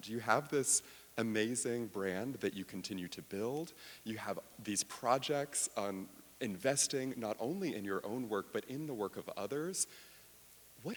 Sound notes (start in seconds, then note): none